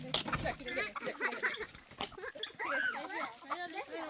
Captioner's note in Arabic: ضحك